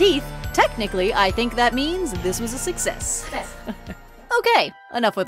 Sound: laugh

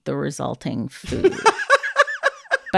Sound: laughter

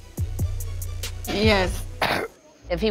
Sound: clears throat

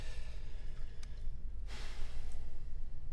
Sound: sighs

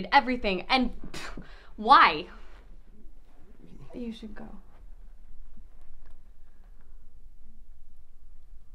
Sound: blows air

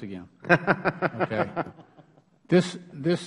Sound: laughter

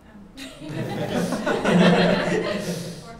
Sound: laughter

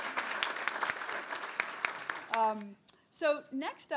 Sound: applause

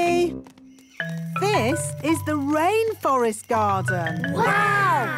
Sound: rainforest sounds

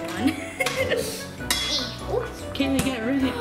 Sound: boys laughing

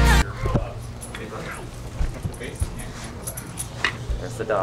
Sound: dog tags jingling

